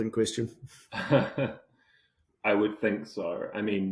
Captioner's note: laughing